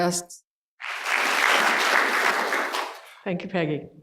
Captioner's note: applause